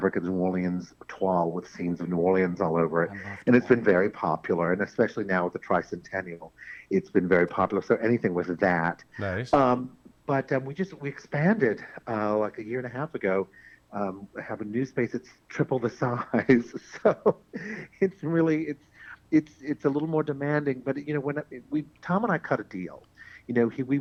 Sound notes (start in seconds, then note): 3.4 whispers